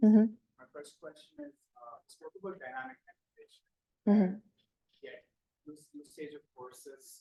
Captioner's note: student speaking faintly; speaks faintly